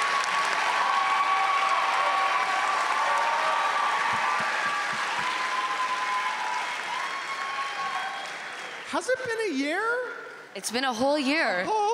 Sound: applause

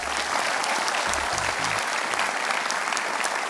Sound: applause

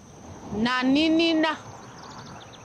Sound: speaking xhosa

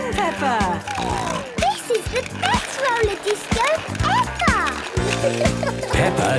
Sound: snorting

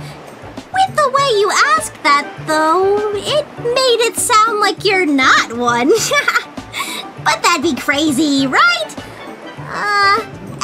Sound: laughs

